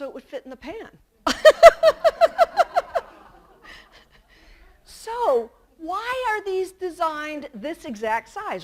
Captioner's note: laughter